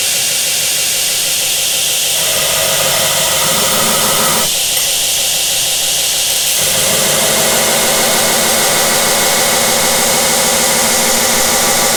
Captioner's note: grinding